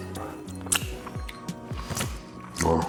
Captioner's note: lips smacking